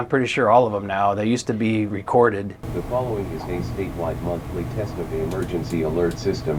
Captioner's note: computer voice